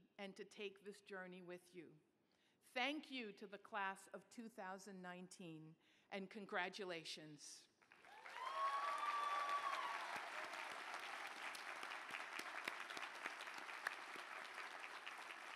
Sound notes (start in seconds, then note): 7.8 applause